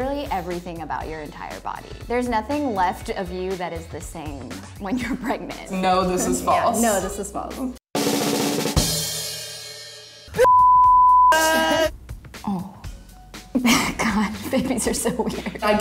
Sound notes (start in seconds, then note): 7.9 drum roll; 10.4 beep; 13.6 laughing